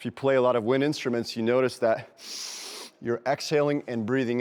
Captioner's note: inhales